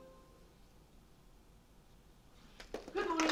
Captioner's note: applause